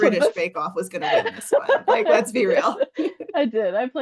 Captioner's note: laughs